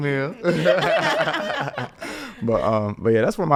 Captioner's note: everyone laughing